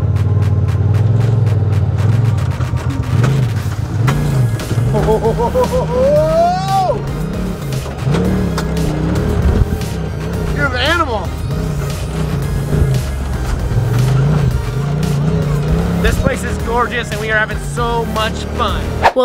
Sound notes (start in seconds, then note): 0.2 climatic music; 5.9 cheering